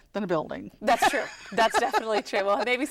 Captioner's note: laughter